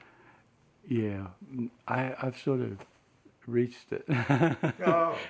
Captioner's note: laughs